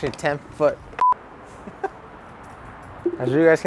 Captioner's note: scene beeps; laughs